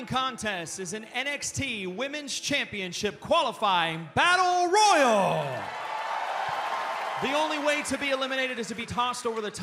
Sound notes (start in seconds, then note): 6.6 cheers and applause